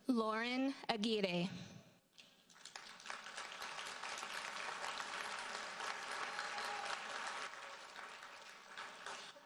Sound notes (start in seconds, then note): 2.4 audience applauds